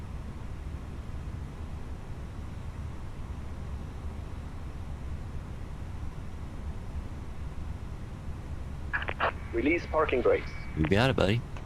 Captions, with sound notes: (radio chatter) Release parking brakes. We got it, buddy.